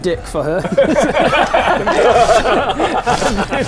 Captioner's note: immature giggles